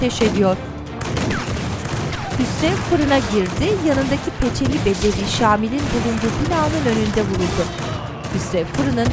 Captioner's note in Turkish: Müzik - Gerilim; Silah sesleri